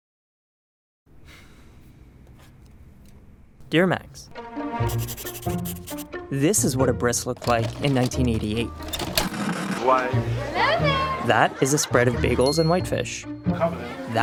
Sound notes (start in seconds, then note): 1.1 man sighs; 4.8 pencil scribbles; 9.4 cassette player whirring